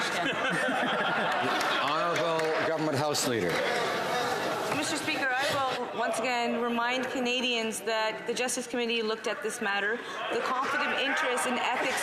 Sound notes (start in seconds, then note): 0.0 some Applause; 4.5 some Laughter